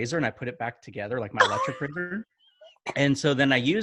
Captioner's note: laughs